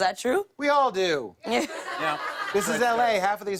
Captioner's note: laughter